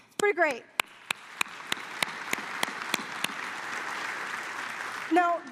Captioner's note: applause